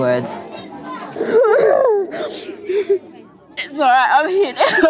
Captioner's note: sobbing